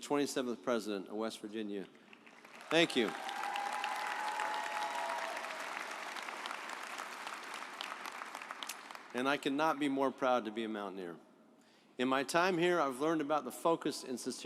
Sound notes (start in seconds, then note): 2.1 audience applauds